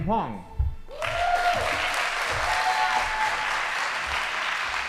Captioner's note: audience applauding